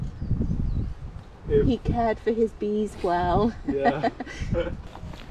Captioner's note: laughs